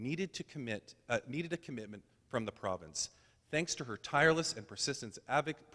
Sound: none

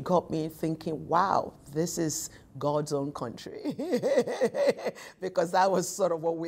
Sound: laughing

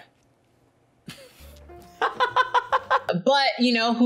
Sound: laughs

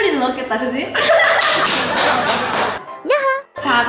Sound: claps of joy LOL

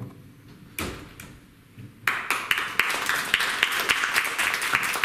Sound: applause

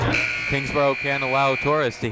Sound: people talking in the crowd; buzzer ringing

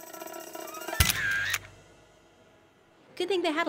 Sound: camera shutter clicks

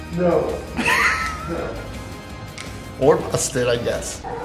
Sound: chuckles

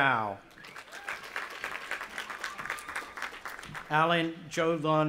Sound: audience applauding and cheering

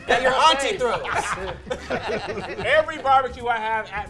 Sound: laughing

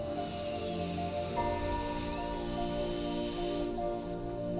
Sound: drill buzzing

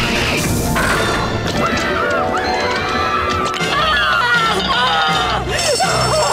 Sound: screaming

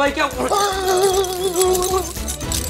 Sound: teeth chattering; dramatic music

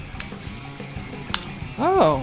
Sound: joystick tap

